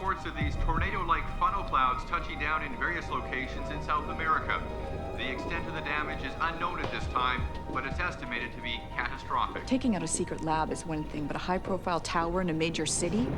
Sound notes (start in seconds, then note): none